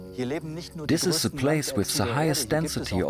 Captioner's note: in German